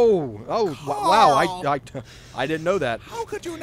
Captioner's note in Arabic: تلعثم